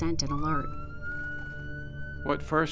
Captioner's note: ambulance Siren